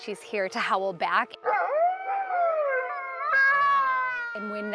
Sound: wolves howling

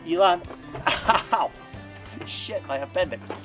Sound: chuckles

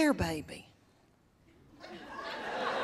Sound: laughter

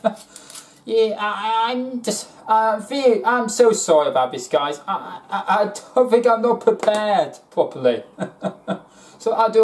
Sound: laughs

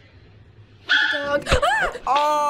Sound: squeals; dog yelps

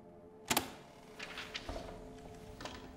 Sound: tape recorder clicks

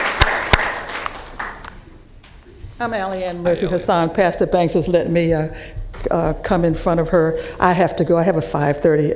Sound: applause

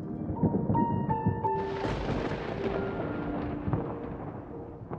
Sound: thunder

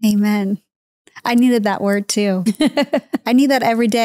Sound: laughing

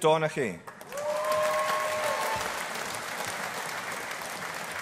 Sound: audience applauding

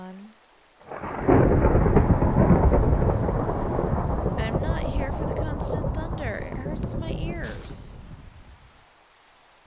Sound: thunder

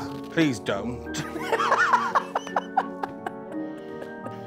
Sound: laughing

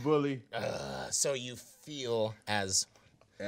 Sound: groaning

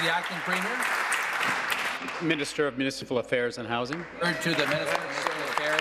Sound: applause

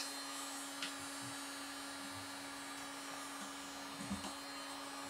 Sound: tool droning

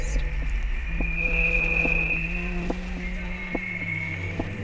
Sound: high pitched humming

